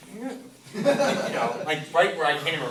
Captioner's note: class laughs